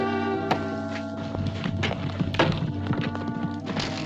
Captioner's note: horses trotting